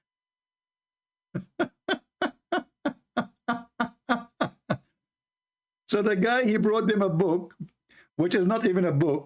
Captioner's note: Ketawa